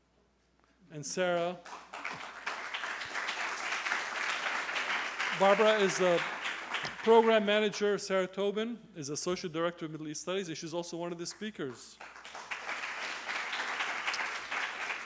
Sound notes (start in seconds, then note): 1.3 applause; 11.3 applause